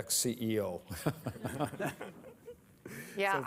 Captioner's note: laughter